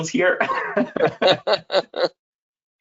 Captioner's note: laughs